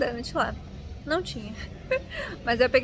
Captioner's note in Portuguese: risos